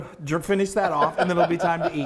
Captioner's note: laughing